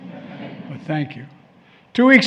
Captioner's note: laughter